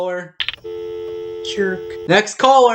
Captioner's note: dial tone